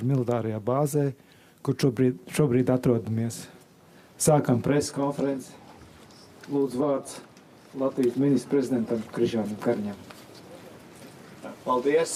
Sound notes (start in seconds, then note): 1.1 speaking Alternate Language